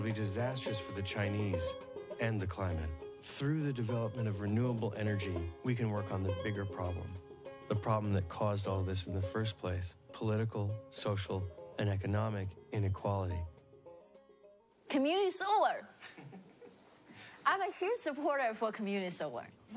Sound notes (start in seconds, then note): 16.0 laughs